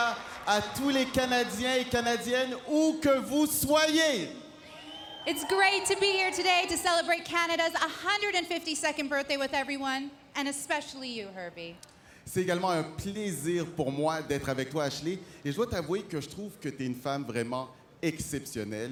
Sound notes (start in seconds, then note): 0.0 speaking French; 2.1 speaking foreign language; 7.5 speaking French